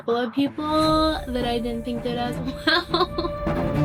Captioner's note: laughs